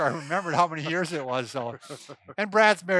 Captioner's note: laughs